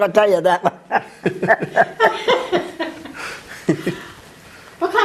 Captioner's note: laughter